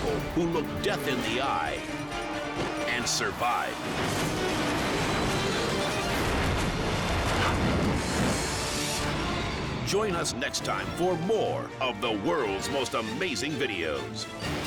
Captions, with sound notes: who look death in the eye and survive. (car clashes) (dramatic music) Join us next time for more of "The World's Most Amazing Videos."